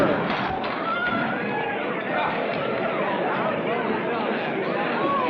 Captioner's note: frantic chattering